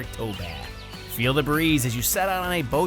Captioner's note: birds chirping